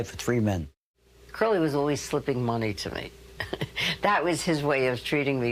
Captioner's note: chuckling